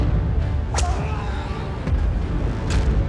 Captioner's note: man screams